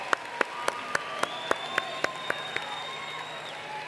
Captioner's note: applause